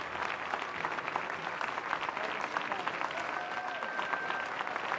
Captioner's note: applause